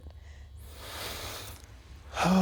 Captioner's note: inhales deeply; exhales deeply